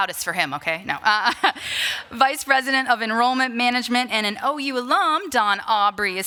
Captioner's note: laughter